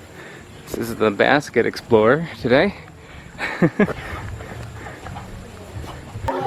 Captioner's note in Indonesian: tertawa